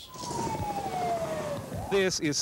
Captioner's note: sirens